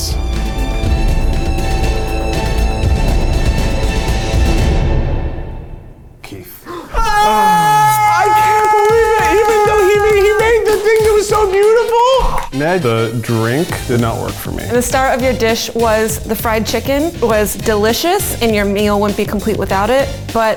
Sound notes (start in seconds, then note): 0.0 dramatic music; 6.6 cheering